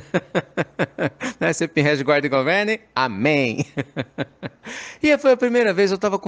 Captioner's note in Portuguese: risos; Risos